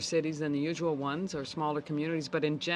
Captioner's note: speaking French